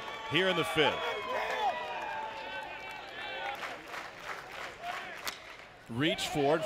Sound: crowd

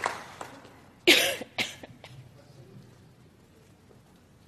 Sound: coughs

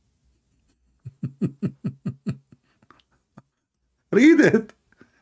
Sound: Ketawa

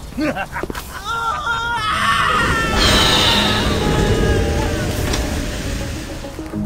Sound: scream loud

